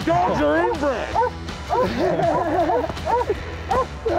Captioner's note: dogs barking